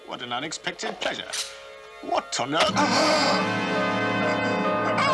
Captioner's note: sword unsheathing; gasps; cries out